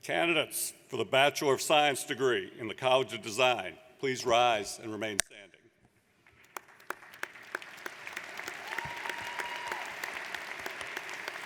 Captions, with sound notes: - Candidates for the Bachelor of Science degree in the College of Design, please rise and remain standing. (audience applauds)